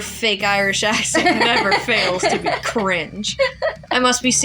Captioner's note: laugh